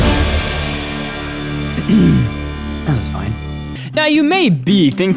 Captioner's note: ahem